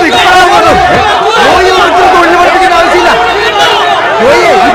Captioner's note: indistinct chatters